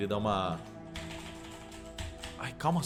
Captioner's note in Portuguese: Teclado